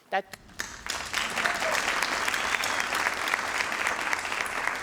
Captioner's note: crowd applauding